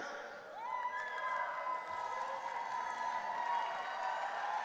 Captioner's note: audience cheering